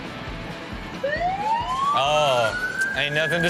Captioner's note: police sirens